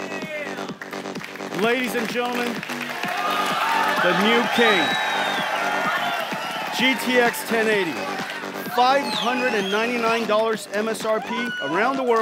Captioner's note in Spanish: Aplausos